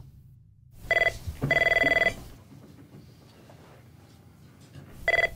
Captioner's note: phone rings